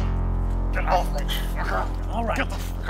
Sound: grunting

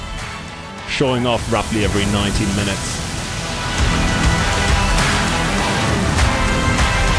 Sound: geyser explosion

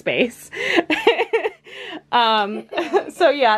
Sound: laughs

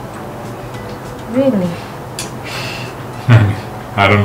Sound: laughing

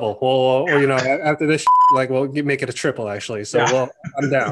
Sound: beeps

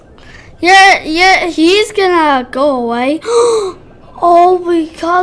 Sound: gasp

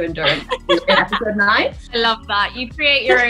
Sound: overlapping chatter

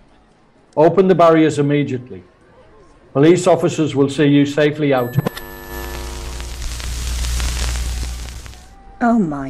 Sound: TV static

